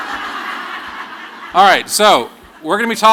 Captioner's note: laughter